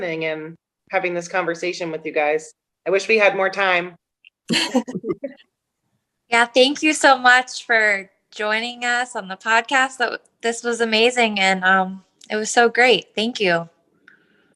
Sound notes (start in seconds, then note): 4.5 laughter